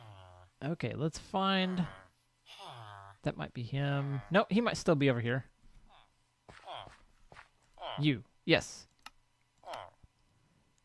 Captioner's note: chattering continues